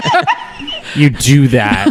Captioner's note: laughter